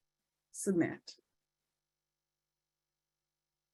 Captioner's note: silence